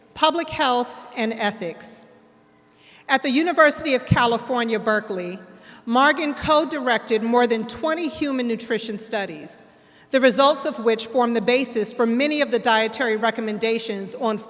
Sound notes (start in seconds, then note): none